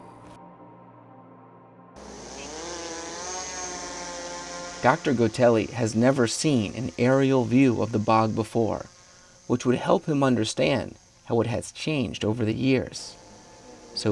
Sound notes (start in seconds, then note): 2.3 drone buzzing